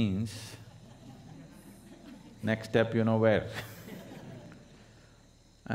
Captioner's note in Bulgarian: смее се